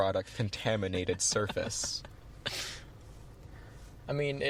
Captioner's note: laughing